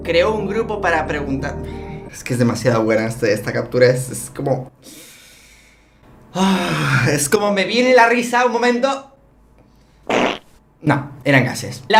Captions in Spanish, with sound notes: Creo un grupo para preguntar...agh es que es demasiado buena esta captura Es como(suspiro) ahhhh Es como me viene la risa un momento....(Flatulencia)No..eran gases